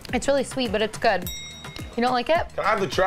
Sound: bell dings

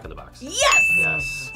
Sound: bell rings

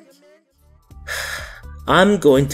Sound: sigh

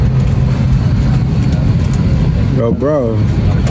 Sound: airplane hums

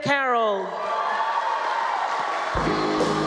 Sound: cheering, applause

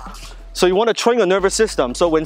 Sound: grunts

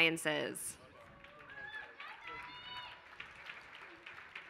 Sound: applause

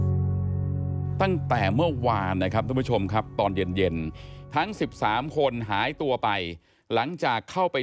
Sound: news broadcaster speaks foreign language

